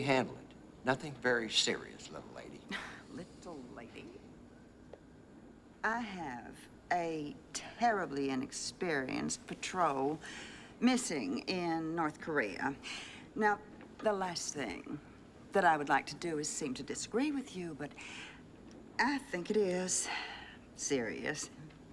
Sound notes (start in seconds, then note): 3.1 scoffs